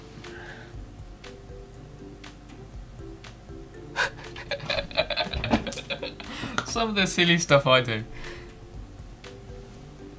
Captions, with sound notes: (light music) (laughing) Some of the silly stuff I do.